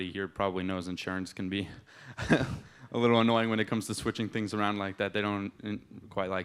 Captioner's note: laughs